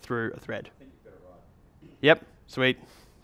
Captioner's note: voiceover